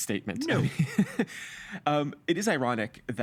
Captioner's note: chuckling